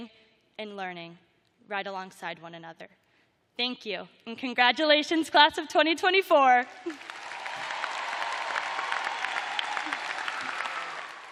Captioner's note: cheers and applause